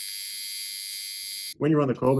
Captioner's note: machine whirring